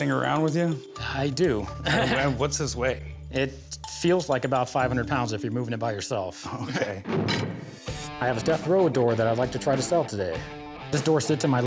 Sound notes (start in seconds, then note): 1.8 laughs; 7.1 metal clanks